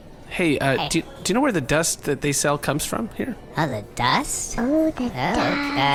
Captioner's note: Sammo and Wink stammer nervously over each other